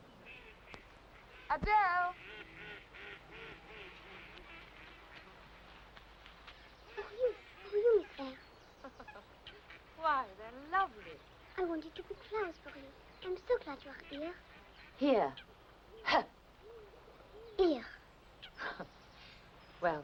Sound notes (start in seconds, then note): 1.0 ducks quacking; 18.4 Jane chuckles